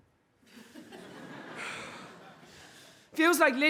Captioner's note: audience laughs